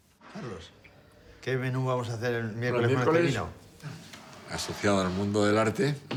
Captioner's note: speaking foreign language